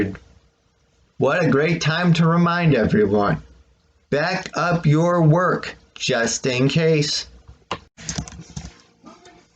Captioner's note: click